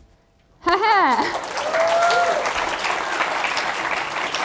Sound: applause

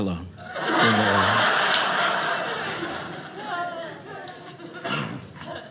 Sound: audience laughing

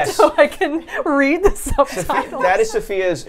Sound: laughs

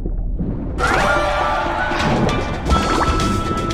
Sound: start sound

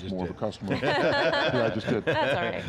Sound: group laughs

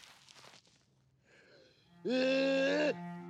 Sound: groans

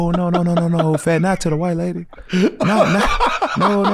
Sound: laughs

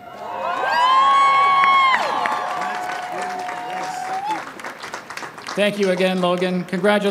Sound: applause and cheers

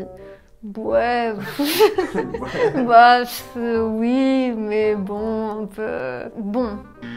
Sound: french noises

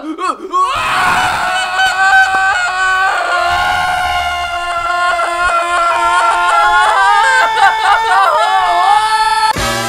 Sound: screaming; screaming intensifies

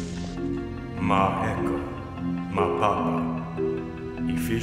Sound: foreign language

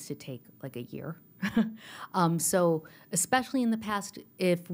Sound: laughter

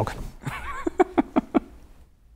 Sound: laughing

